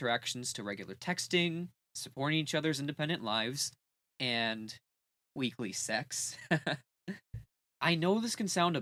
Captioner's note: chuckle